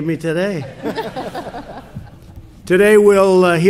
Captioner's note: laughter